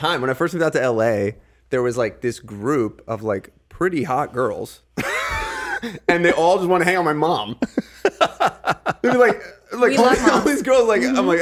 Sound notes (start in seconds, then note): 5.0 giggling; 7.5 Justin laughing